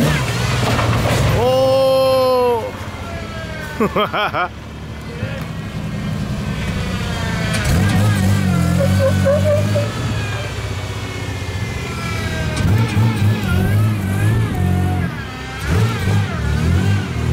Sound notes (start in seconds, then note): 1.4 cheering; 1.6 laughs; 9.5 tires squeal